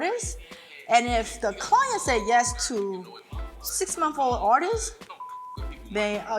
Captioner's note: beep